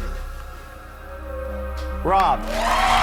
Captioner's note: audience cheers